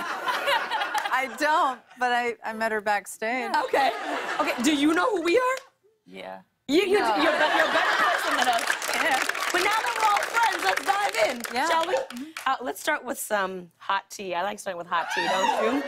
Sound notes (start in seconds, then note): 8.1 applause